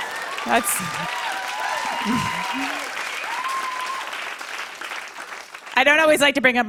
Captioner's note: cheers and applause